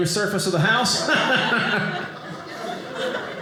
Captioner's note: audience laughing